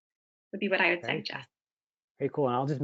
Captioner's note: mumbles